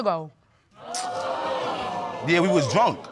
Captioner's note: audience exclaiming